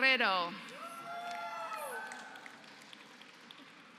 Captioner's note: applause